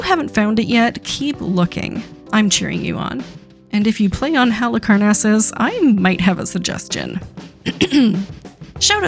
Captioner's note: ahems